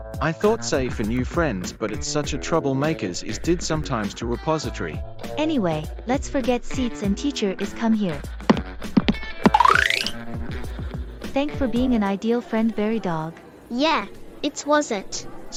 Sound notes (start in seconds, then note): 9.4 cartoon Iris Sound